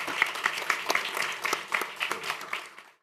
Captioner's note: applause